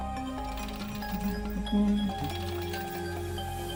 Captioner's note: humming along